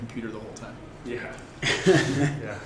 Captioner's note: laughter